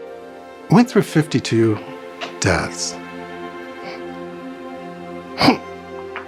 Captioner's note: weeps